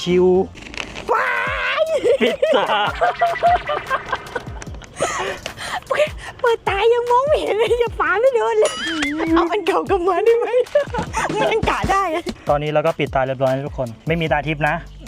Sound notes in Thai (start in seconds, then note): 1.8 เสียงหัวเราะ